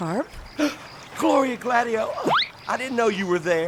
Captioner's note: Carp gasps; slide whistle blows